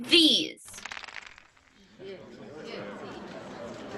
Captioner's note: clatter of jewels; chatter of excited voices